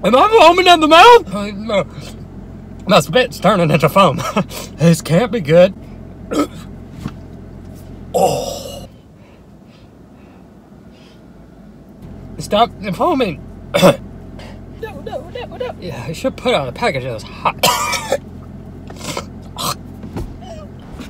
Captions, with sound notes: Am I foaming at the mouth? My spit's turning into foam. This can't be good. (gagging) Oh! Stop foaming. (clears throat) No no no no. Yeah, they should put on the package that it's hot. (coughs)